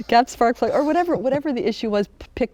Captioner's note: laughing